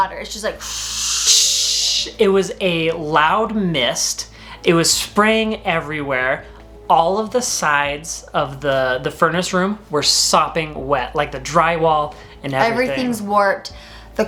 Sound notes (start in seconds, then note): none